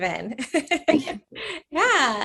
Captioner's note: laughs